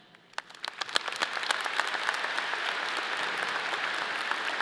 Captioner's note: audience applauding